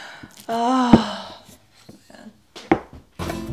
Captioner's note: sigh